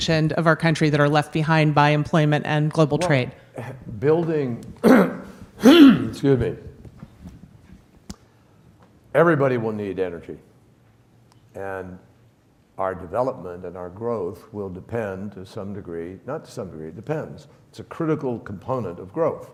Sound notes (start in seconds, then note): 4.8 clears throat